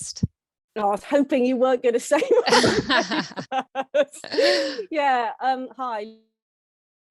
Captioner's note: laughter